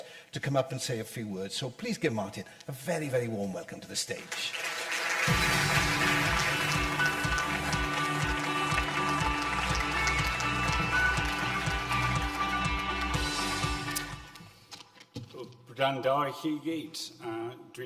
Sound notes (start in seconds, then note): 5.2 upbeat music; 6.4 audience applause